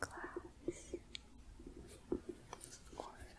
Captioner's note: gentle tapping